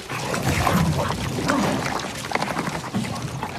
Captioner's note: chomping